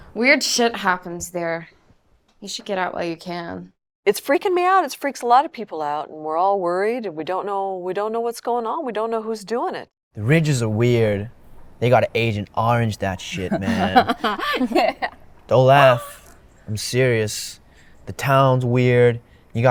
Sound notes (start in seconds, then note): 13.3 Amy laughs